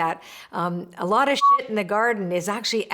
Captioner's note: beep